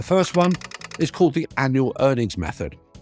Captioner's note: typewriter clacking